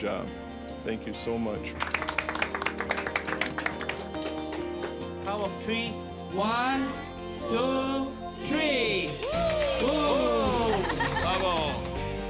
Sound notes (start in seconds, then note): 1.7 applause